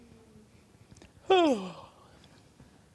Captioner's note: yawn